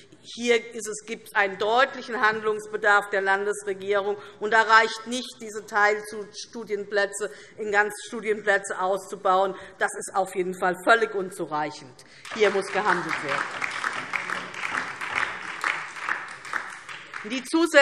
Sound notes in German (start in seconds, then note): 12.2 Beifall DIE LINKE